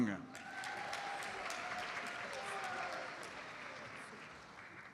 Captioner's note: audience applauds